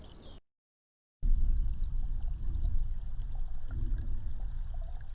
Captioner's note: water gurgling